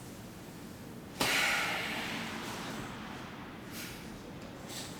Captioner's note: laundromat sounds